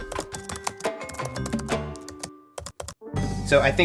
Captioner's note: keys clacking